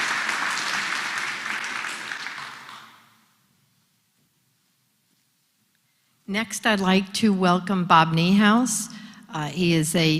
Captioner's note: applause